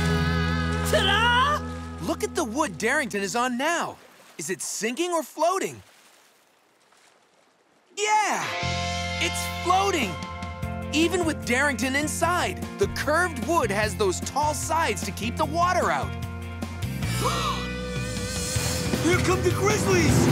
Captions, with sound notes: Ta-da? Look at the wood Darington is on now. Is it sinking or floating? Yeah, it's floating! Even with Darington inside, the curved wood has those tall sides to keep the water out. [gasps] Here come the grizzlies!